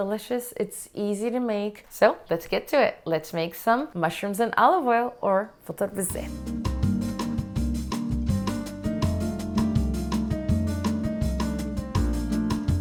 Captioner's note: in Arabic